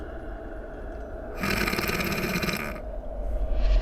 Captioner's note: snorting